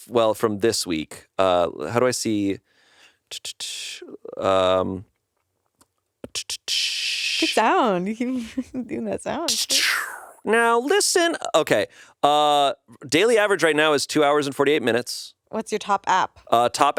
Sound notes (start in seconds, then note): 3.4 blows air through teeth